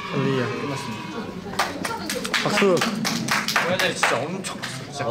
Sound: round of applause

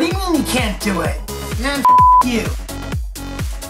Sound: beep

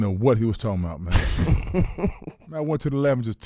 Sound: laughing

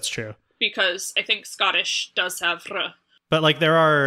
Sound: rolled-r sound

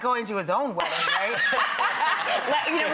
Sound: laughs

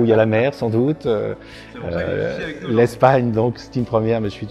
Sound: laughs

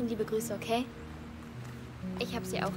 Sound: in German

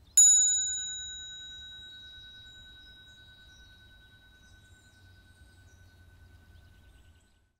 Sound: bell sounds

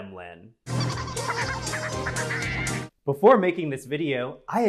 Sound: Gremlins Laughing

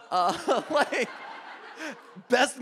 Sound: audience laughing

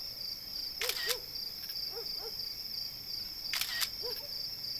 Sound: camera clicks

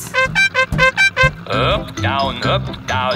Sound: horn beeping

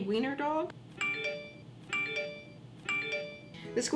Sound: phone beeps x3

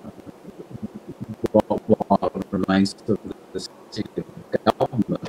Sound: audio distorting

